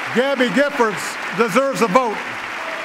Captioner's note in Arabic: تصفيق